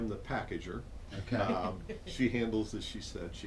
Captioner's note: laughter